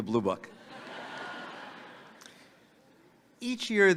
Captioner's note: audience laughing